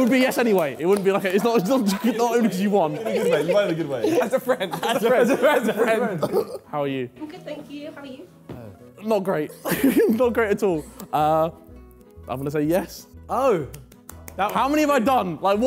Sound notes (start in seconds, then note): 0.8 Sidemen laughing; 9.6 chuckling; 13.6 Sideman clapping